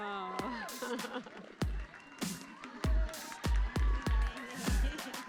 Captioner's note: audience clapping